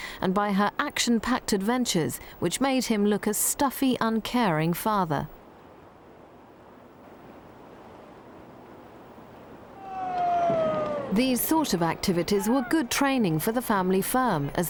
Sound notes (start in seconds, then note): 6.3 waves lapping; 9.7 crowd cheering